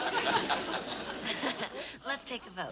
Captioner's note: laughs